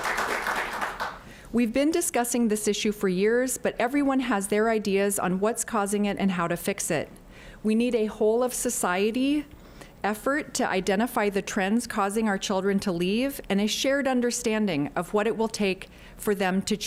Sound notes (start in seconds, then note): 2.1 applause